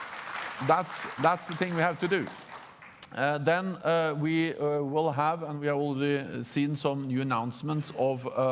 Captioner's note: applause